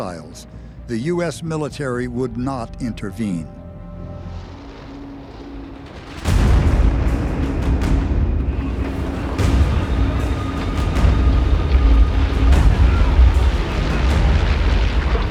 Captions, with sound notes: the US Military would not intervene. [plane engine whirring] [explosion] [tense music playing]